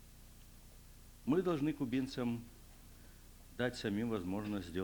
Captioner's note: non-english speech